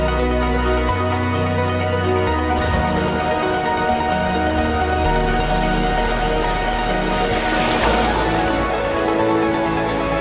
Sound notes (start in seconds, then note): 2.6 waves crashing; 3.1 intense techno music